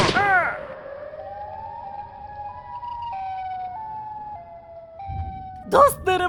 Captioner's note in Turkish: Siren kafa sesi